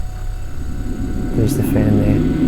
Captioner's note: compressor continues buzzing; fan drones